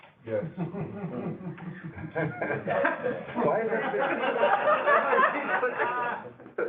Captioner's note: laughter